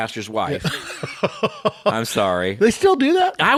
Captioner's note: cohost laughing